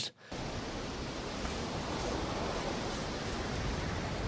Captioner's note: wind blowing